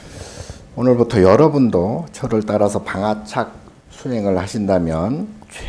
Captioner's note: speaking Korean